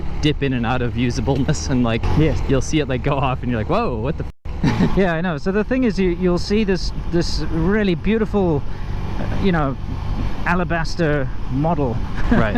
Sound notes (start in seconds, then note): 4.6 laughs; 12.1 laughs